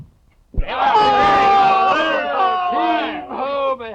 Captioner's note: Sykes yelling